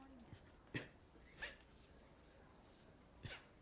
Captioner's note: coughing